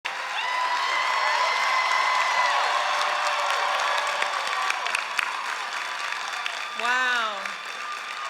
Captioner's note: cheers and applause